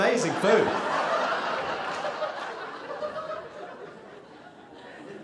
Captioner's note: audience laughing